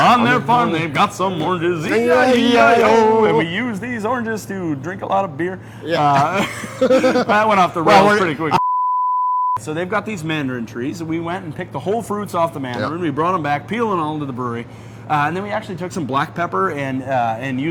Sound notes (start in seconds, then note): 5.8 both laugh; 8.6 beep